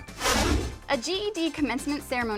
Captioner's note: deep swooshing